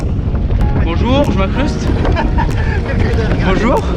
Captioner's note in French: rire